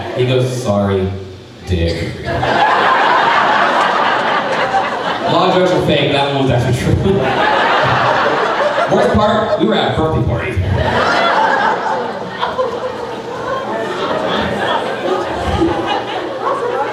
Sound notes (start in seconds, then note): 2.7 crowd laughing; 7.7 crowd laughing; 11.1 crowd chattering